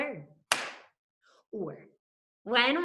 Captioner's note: claps